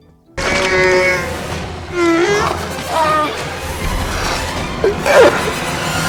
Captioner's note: bird thing roars